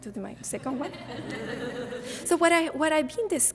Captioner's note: audience laughing